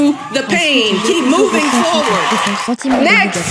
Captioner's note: cheering